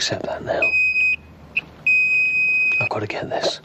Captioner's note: phone beep